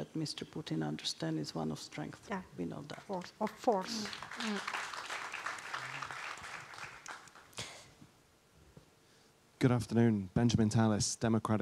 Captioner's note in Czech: Potlesk